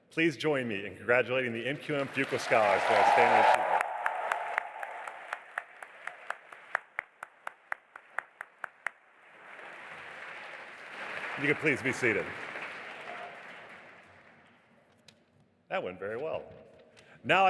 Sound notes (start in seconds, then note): 3.6 audience applauding; 3.6 speaking faintly